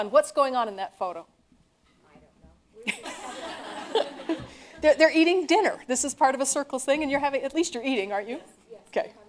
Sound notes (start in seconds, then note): 2.8 laughter